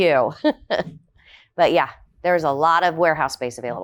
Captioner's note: laughing